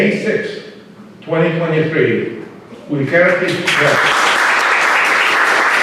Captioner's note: applause